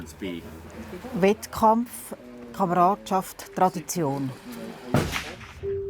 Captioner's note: speaking foreign language